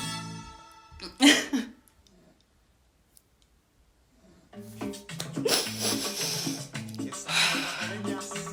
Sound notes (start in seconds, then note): 1.1 sobs